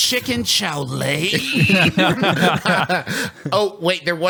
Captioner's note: laughs